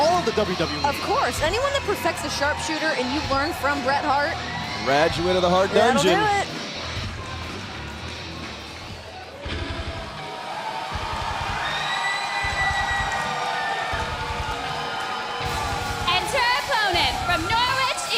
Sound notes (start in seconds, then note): 10.5 crowd cheering